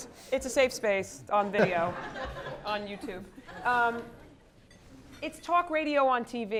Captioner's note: laugh